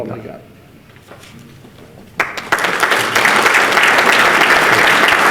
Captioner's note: participants clap